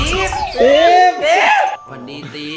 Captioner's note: shouts